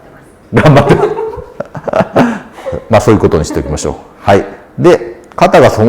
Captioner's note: laughs